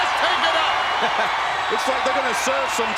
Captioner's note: chuckles